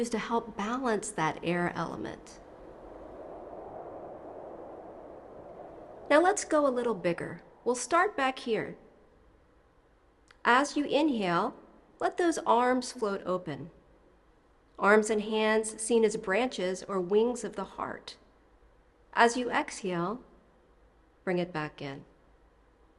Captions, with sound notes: to help balance that air element. [wind whooshing] Now let's go a little bigger, we'll start back here. As you inhale, let those arms float open. Arms and hands seen as branches or wings of the heart. As you exhale, bring it back in.